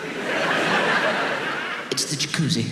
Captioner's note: audience laughs